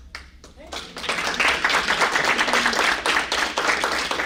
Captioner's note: applause